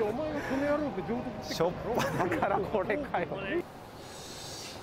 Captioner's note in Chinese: 苦笑